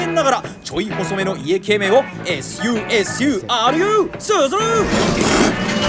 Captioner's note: slurp